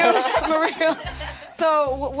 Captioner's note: laughter